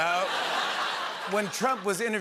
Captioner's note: laughter